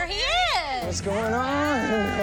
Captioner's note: laughing